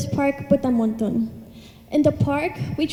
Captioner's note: speaks in Thai